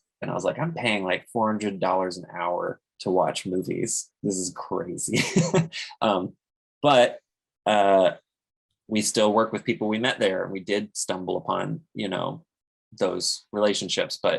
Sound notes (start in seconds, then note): 5.2 laughs